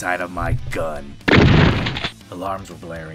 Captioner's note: gunshot